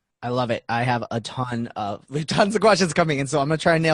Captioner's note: laughing